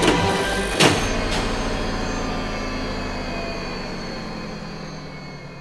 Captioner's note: device powers down